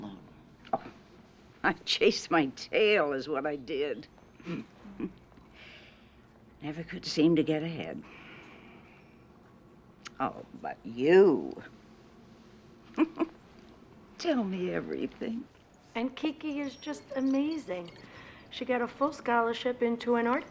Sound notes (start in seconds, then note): 4.4 chuckles; 8.1 sighs; 12.9 chuckles